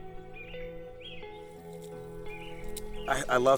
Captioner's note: ambient music; birds chirping